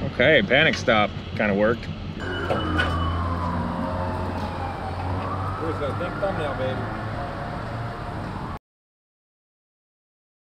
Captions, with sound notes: - Okay, panic stop kinda worked. (sirens blare) - Where's the think thumbnail baby?